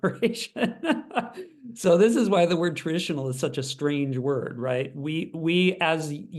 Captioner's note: laugh